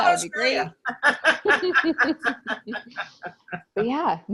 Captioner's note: everyone laughs